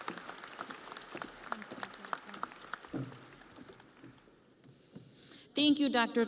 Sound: audience applauding

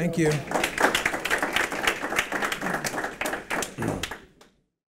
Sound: audience applauding

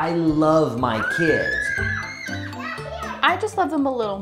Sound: children screaming

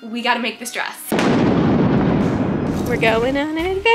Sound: thunder banging

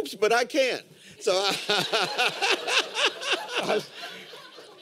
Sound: laughter

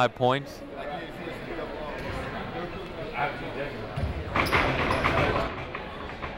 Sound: people talking in the crowd

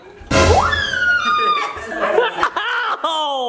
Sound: mom screams

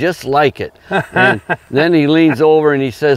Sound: laughs

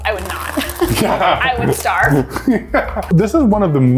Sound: laughs

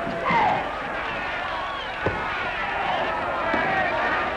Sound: shouting

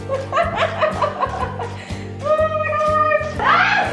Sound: laughing

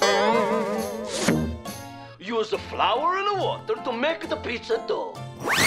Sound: none

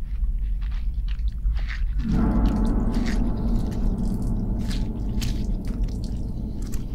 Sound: louder chewing, sound of blood dripping on the floor

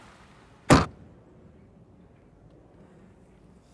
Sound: boot slams

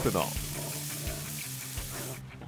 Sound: sizzling

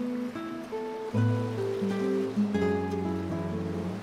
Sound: waves crash gently

